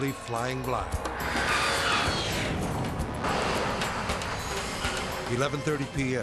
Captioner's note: tense music; tires skidding